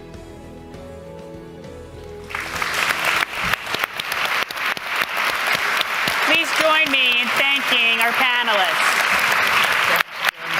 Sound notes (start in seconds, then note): 4.8 applause